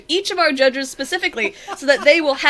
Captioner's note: laughs